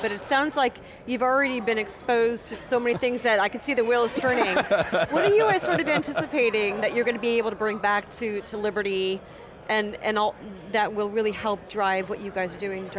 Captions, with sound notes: >> But it sounds like you've already been exposed to so many things, that I can see the wheels turning. (laughing) What are you guys sort of anticipating that you're going to be able to bring back to Liberty that will really help drive what you guys are doing?